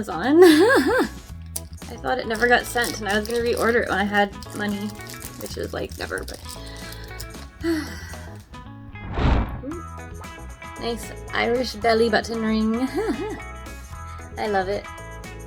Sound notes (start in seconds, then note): 0.4 laughs; 7.6 sighs; 12.8 laughs